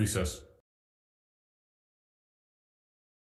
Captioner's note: silence